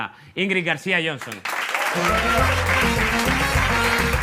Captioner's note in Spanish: Aplausos